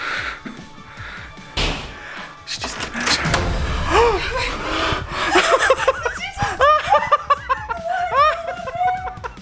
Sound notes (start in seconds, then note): 0.1 laughing; 3.8 gasps; 7.0 laughing